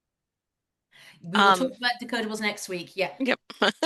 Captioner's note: laughter